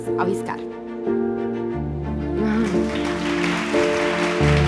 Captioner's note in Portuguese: Aplausos